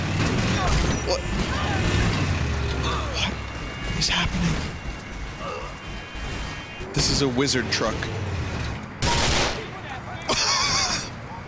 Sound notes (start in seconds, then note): 0.3 smashing; 8.8 explosion; 10.2 laughs